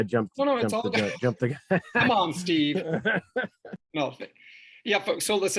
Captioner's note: laughing